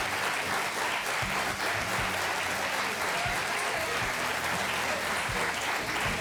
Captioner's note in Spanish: aplausos